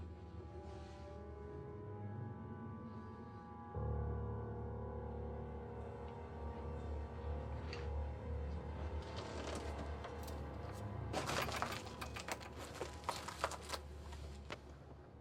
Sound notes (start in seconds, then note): 3.7 dramatic music; 9.4 footsteps crunching